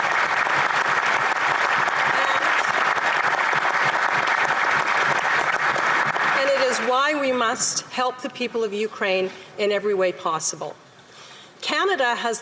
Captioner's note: applause